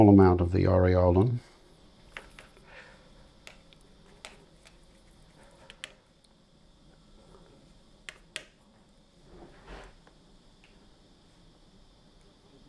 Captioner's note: silence